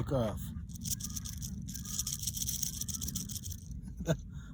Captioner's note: rattlesnake rattling